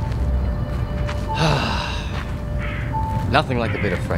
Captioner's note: The Demon inhales; The Demon gasps